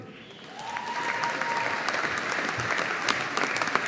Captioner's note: audience applauding